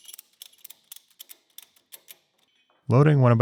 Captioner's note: metal clicking